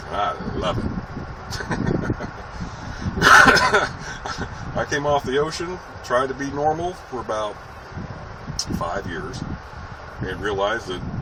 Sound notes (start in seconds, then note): 1.6 laughs Then coughs